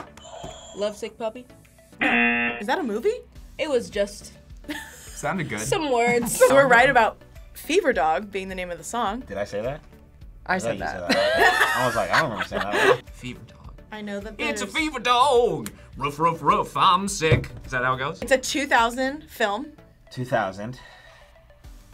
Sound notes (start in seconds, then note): 2.0 buzzer; 2.0 buzzer rings; 11.0 both laugh